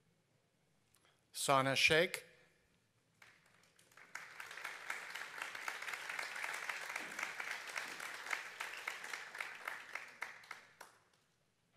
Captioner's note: applause